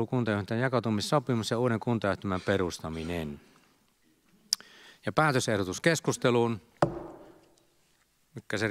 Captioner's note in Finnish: Nuijan kopautus